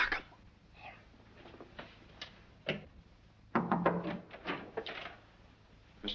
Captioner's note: knocking at the door